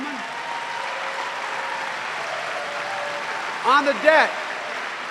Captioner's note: cheering and applause